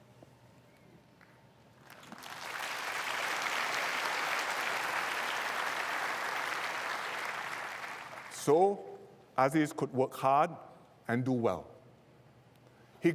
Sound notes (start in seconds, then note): 1.8 applause